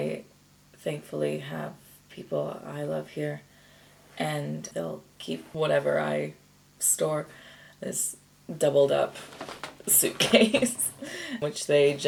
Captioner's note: chuckles